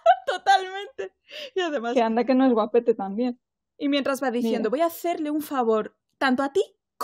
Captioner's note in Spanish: risas